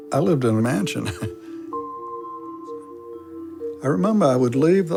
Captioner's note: chuckles